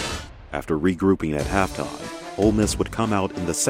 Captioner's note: voiceover